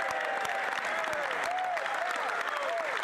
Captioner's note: applause; speaking French